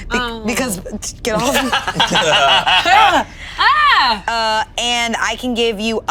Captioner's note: all laughing